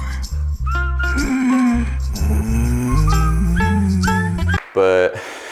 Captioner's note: breathes intensely